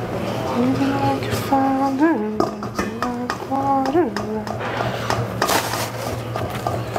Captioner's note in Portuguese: cantarola